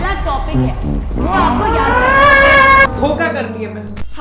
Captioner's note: screms of rage